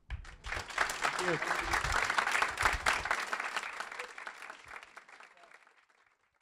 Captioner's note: applause